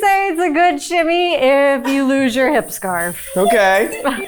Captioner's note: chuckling; crew member chuckling